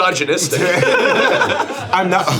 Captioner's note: streamers laughing